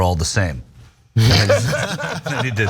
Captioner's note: laugh